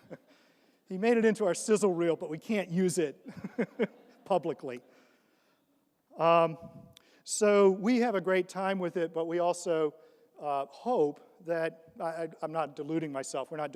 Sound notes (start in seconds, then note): 3.7 laughs